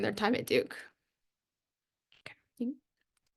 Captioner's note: pause